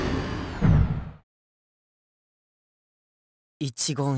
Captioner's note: awkward silence